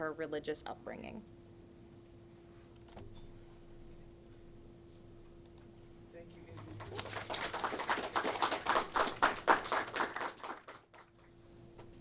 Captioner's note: clapping